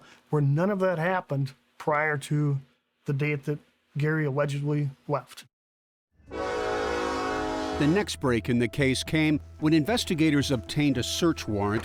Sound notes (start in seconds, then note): 6.2 train horn blares